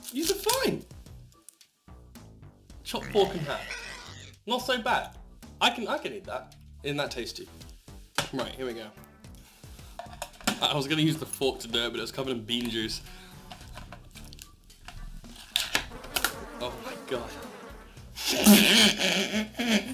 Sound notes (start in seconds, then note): 2.9 pig Noises; 15.9 the sound of flys swarming